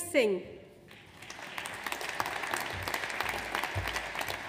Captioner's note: audience applauds